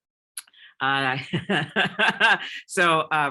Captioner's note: laughs